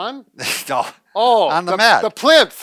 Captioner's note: chuckles